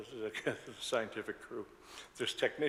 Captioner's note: laughs